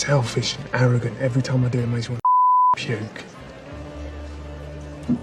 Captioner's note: beep